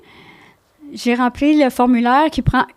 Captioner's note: in french